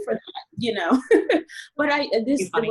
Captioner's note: laughs